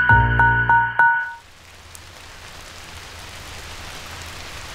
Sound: heavy rain

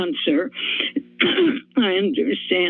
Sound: coughs

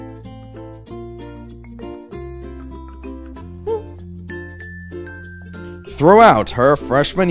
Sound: speaking Russian

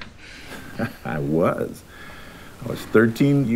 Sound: chuckles

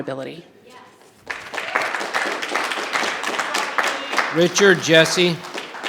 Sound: audience applause

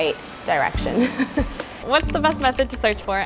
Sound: laughs

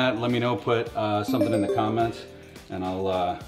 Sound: message tinkles

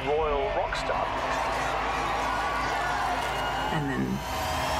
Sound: people cheering

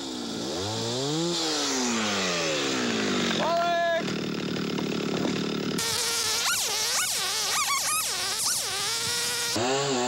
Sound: chain saw sounds

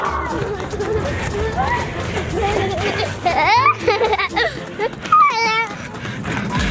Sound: laughs

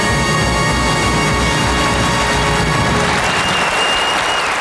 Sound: audience applauding

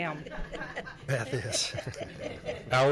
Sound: laughter

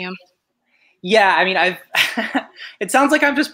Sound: chuckles

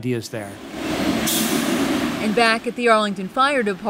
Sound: truck revving

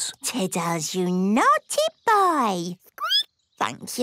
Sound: squeaking

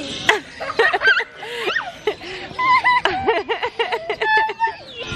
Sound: laugh

